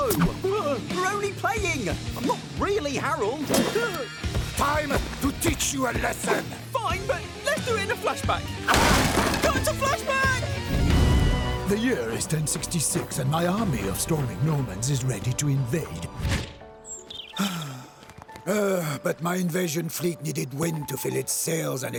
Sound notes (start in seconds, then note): 8.6 crashing; 17.3 sighing